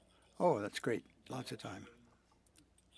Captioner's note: speaking French